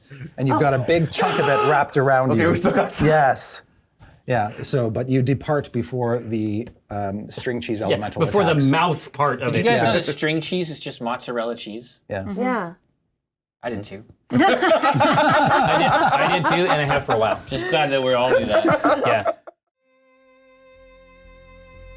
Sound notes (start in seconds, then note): 14.3 laughter; 21.0 dramatic Music